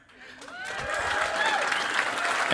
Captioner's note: cheering and applause